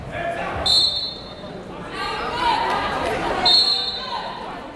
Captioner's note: whistle blowing; whistle blowing